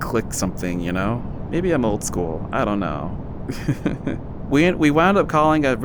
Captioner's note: chuckles